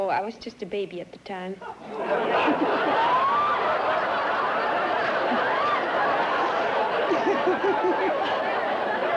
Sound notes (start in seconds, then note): 1.8 laughter